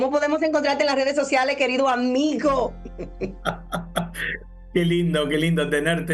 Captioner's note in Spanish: risas